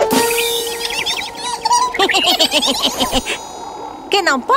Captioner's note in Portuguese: Risos